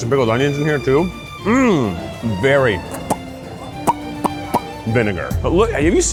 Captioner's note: lips popping